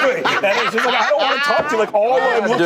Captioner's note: laughter